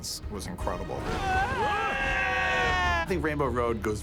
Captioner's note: Mario, Donkey Kong screaming